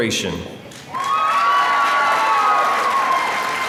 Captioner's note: applause